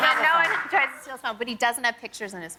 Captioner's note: laughter